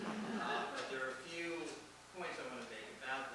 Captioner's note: laughter